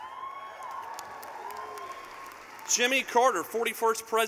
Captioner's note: cheering